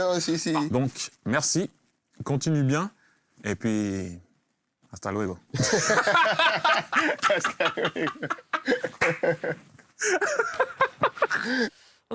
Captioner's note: laughs